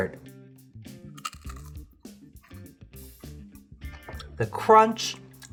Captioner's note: crunching